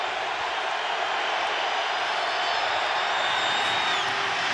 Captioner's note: crowd cheering